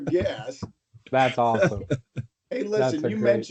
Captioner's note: laughter